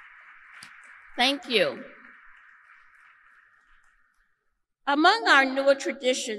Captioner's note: applause